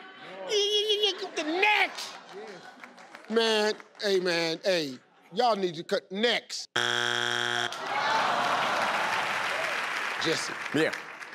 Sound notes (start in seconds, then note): 6.7 buzz sound; 7.6 crowd; 8.2 claps